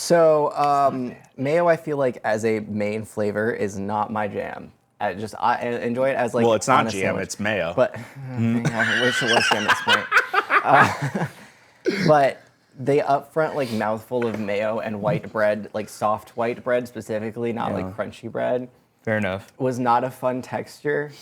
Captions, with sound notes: So mayo, I feel like, as a main flavor, is not my jam. Enjoy it as-- Well, it's not jam. It's mayo. But-- [LAUGHTER] But the up front, like, mouthful of mayo and white bread, like soft white bread, specifically not crunchy bread-- Fair enough. Was not a fun texture.